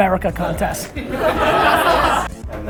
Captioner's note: laughter